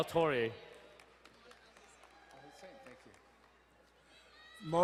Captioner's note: crowd cheering and applauding